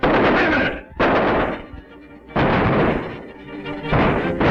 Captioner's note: gunshots outside